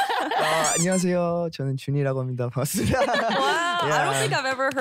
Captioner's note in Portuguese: Coreano